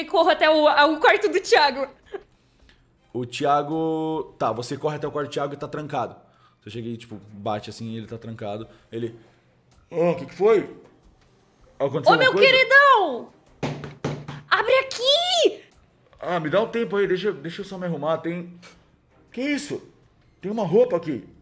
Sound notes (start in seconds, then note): 13.6 knocking